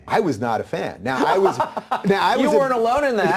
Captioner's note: Tucker laughing